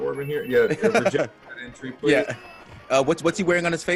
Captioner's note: laugh